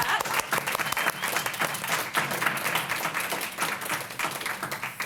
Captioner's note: applause